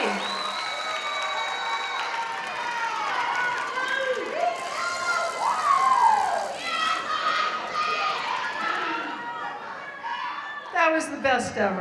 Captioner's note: cheering